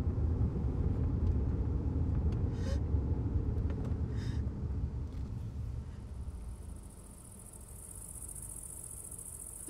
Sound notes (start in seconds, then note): 0.2 engine rumbling quietly; 3.1 insects chirping